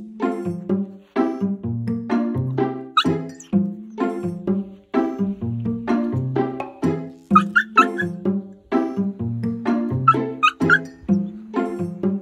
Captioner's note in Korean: 사운드: lucky가 여전히 고통스럽게 울고 있음